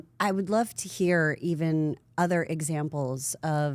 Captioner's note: none